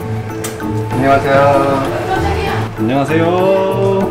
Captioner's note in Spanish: sorprendida